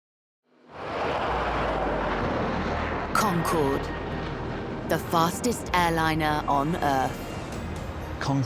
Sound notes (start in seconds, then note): 0.6 jet engine roars